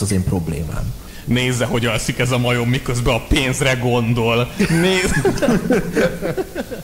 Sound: laughs

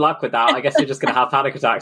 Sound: laughs

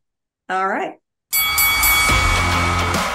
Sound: bell dings; audience cheering; upbeat music

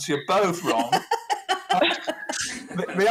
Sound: laughing

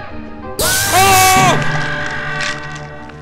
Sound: trumpets blare; screams

